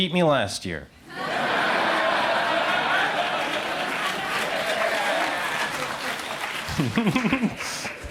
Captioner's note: crowd laughs very loud